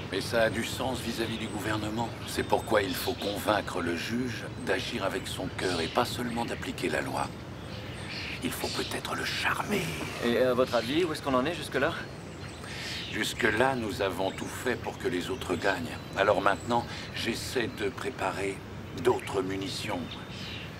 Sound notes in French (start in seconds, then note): 9.4 riant